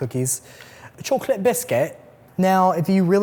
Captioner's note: british accent